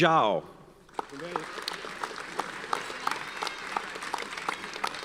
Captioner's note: audience applauds